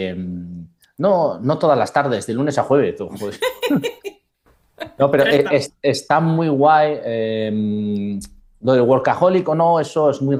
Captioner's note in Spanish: risas